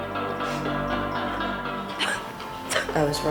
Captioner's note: coughing - Gagging